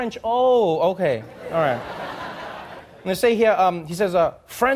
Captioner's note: audience laughing